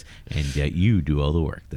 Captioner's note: uh